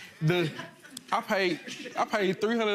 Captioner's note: audience laughing